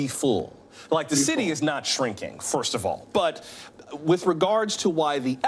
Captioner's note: none